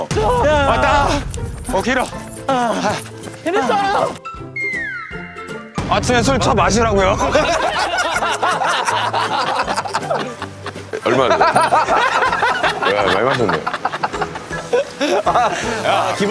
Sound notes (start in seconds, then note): 7.1 hahahahahaha